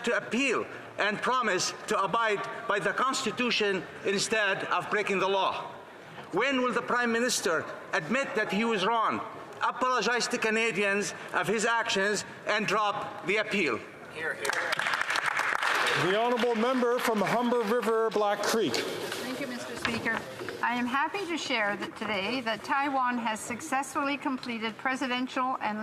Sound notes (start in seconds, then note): 18.0 some Applause